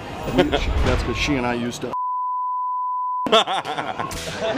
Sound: laughter

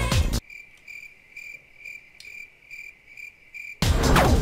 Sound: cricket sound

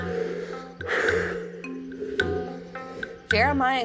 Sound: exhales

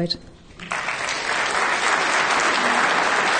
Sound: clapping

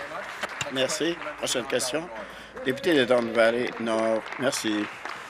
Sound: applause

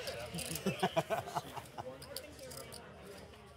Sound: laughing

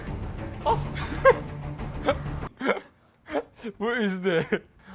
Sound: laughing

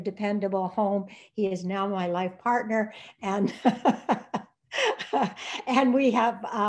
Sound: laughs

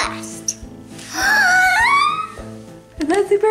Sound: squeal

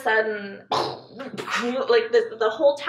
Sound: mouth whooshing air

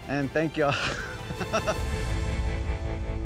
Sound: laughter

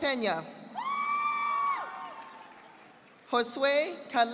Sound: audience applauding

